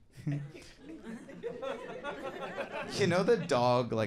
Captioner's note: audience laughing